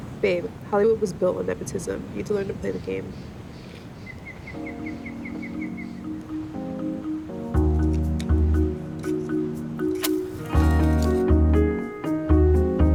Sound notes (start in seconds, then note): 4.5 gentle music; 10.0 match lights